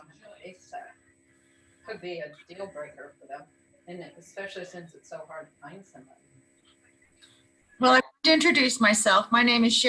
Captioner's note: indistinct chatter